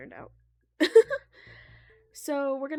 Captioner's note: laughs